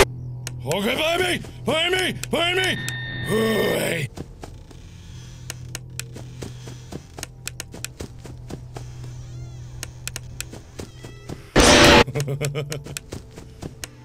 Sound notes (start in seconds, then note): 2.6 trill beep; 11.9 nervous Laughter